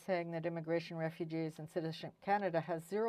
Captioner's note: speaking French